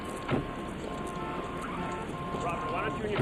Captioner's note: horns honking; vehicles humming; door thuds